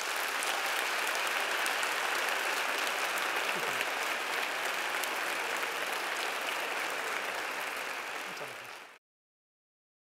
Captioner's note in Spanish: Aplausos